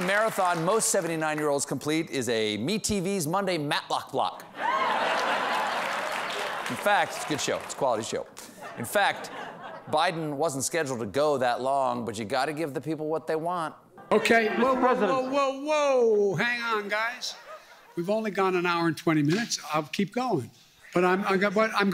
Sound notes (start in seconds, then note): 4.6 laughter; 4.7 applause